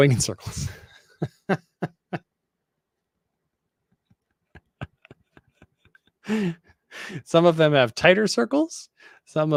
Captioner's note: laughs